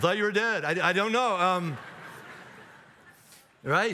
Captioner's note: audience laughs